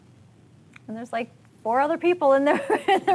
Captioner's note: laughing